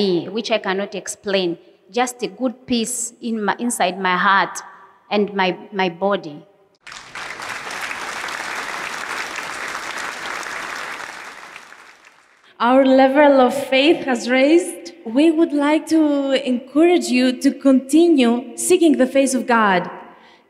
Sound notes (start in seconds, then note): 6.8 applause